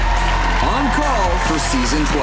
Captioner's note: audience applauding